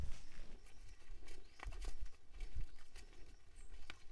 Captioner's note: none